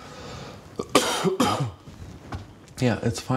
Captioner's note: coughing